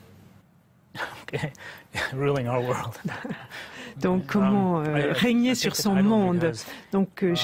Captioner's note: laughs